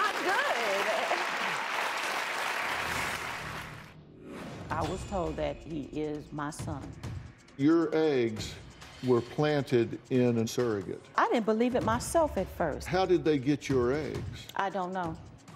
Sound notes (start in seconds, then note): 3.7 applause